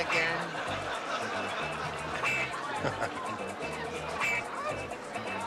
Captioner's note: laughter